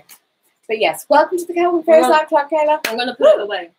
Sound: claps

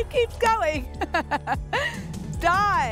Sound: laughs

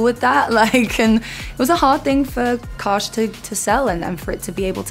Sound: laughs

